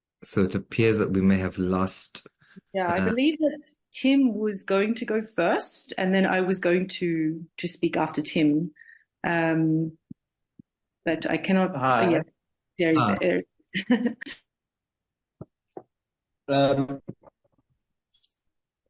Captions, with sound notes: So it appears that we may have lost-- Yeah, I believe that Tim was going to go first. And then I was going to speak after Tim. But I cannot-- Hi. There he is. [CHUCKLES]